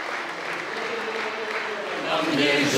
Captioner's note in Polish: oklaski